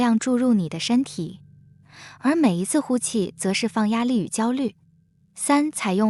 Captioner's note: exhale